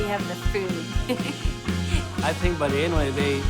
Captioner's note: laughs